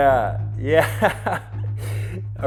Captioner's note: chuckles